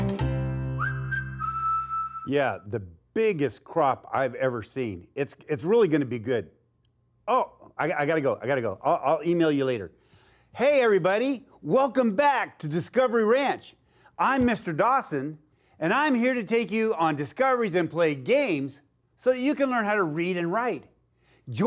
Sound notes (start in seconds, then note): 0.7 whistling